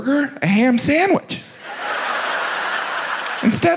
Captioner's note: audience laughs